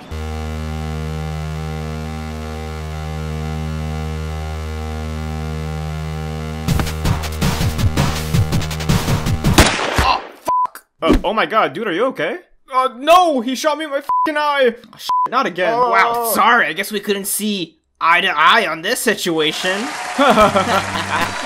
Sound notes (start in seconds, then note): 9.5 gunshot